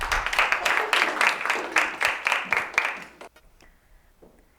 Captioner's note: applause